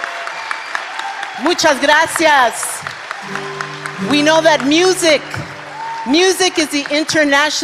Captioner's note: applause